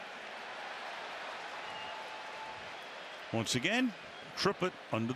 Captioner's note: cheers